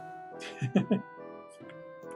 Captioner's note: laughs